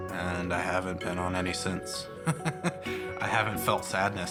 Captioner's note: laughs